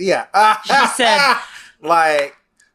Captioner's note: laughs